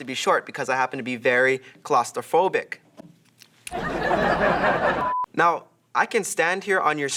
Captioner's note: laugh Track